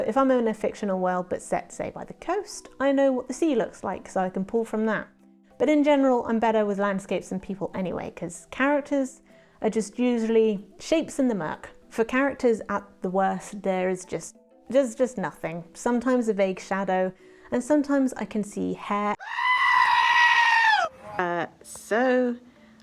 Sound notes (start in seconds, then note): 19.2 A Goat screams in a scared sounding fashion